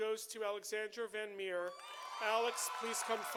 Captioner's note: audience applauding